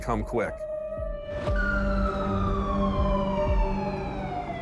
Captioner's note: police sirens